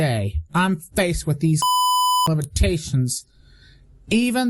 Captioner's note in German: Piep